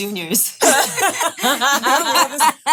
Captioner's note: women laughing